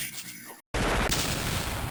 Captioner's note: gunfire sound